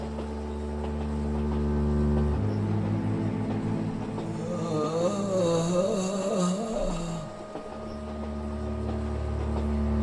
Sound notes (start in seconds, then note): 4.3 groaning